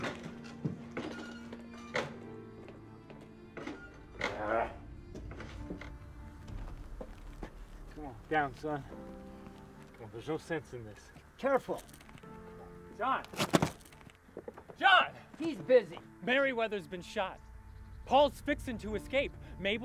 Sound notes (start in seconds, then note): 0.0 tense orchestral music; 5.4 grunts